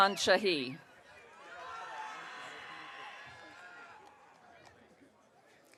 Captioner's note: audience cheering